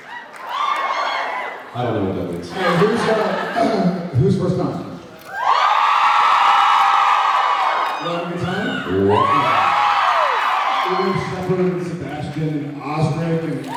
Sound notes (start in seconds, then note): 0.0 cheers, applauds; 3.6 clears throat; 5.2 cheers, applauds